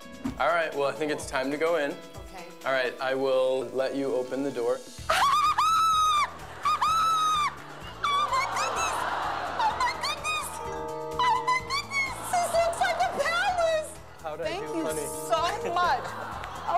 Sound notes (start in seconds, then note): 5.1 screams